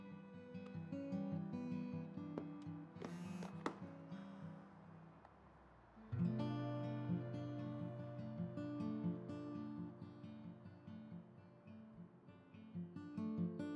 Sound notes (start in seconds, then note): 2.5 phone buzzing; 2.5 phone clattering; 9.4 guitar music continues